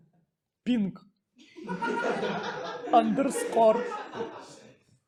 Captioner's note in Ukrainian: сміх